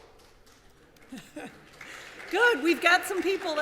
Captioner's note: applause; chuckles